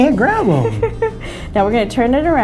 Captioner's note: laughs